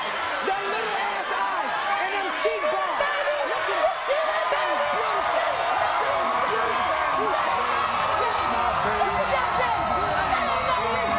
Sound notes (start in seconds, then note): 4.0 audience cheers; 8.9 audience cheers